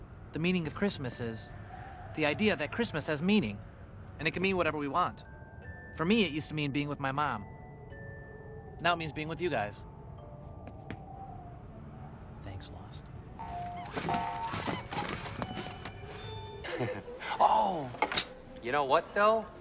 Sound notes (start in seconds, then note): 12.2 whispered; 16.6 JEFF laughs